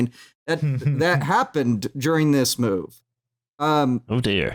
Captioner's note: chuckles